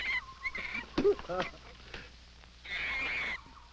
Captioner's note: fruit thwacking; monkey shrieking